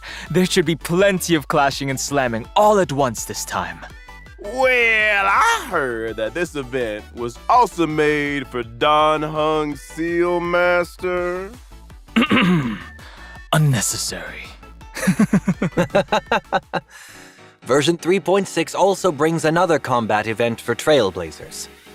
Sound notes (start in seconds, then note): 12.1 cough